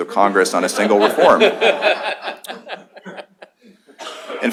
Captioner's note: laughter